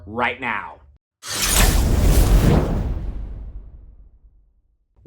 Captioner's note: air whooshing